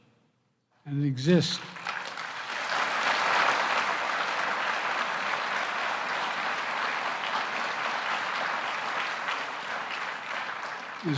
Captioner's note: applause